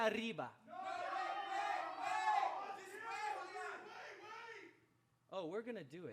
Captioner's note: people shouting in the background